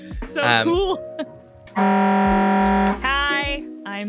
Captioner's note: air horn